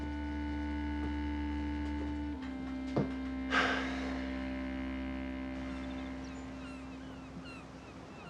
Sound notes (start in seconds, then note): 3.4 sighing; 5.4 seagulls cawing